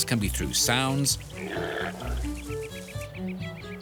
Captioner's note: impala grunts